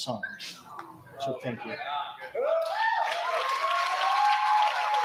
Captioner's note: cheering